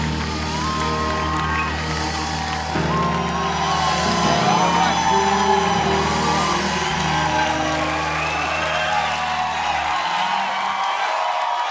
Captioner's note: applause